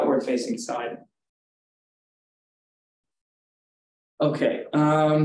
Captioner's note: silence